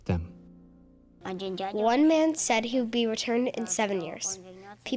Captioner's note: through translator